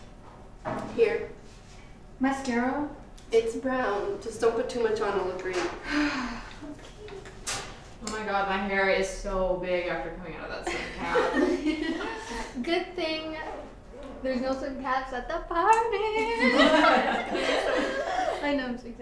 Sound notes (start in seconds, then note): 5.8 jenna sighs; 10.6 girls laugh